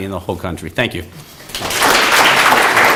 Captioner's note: applause